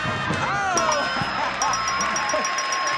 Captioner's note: laughter; bell ringing